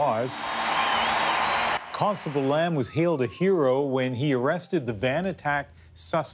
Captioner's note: applause